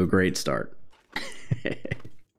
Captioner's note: laughs